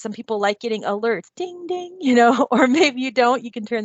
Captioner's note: laughs